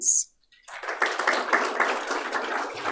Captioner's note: applause